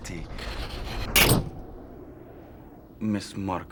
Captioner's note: window cracks